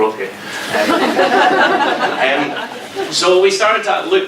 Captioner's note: audience laughs